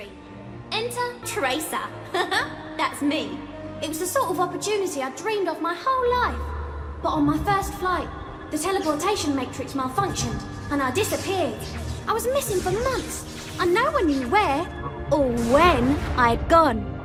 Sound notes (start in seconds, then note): 2.2 chuckles